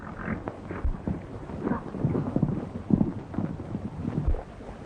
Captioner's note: horses galloping